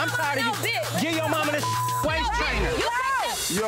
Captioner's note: beep